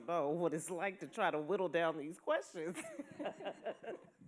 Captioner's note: laughs